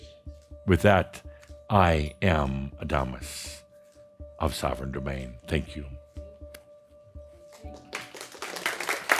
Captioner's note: audience applause